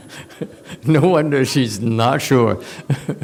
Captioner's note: laughs